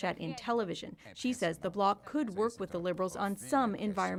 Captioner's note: speaking French